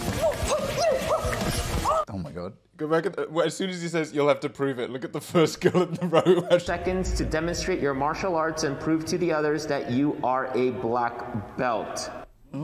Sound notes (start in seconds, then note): 1.1 chanting